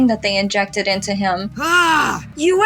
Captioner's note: Caine Shouts